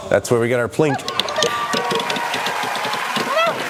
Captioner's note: audience cheering; disc clattering